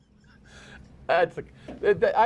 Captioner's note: laughter